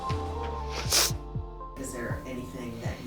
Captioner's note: sniffles